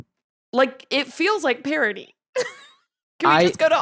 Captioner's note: laughs